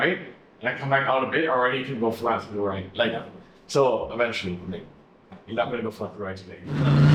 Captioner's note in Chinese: 引擎預熱時發出的聲音